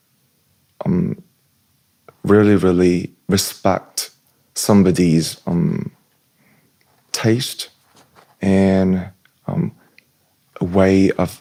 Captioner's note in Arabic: الشخير